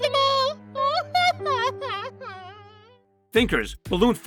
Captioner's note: clover cries